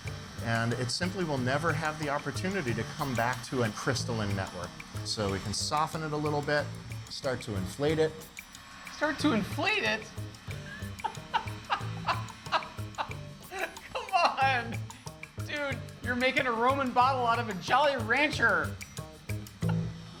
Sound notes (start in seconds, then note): 10.7 laughs